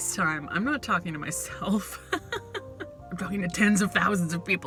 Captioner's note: laughs